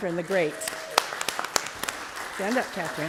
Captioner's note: applause